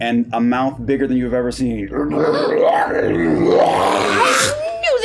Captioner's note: horrible screeching noise